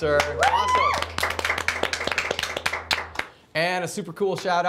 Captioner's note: applause